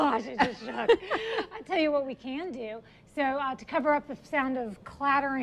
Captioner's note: laughs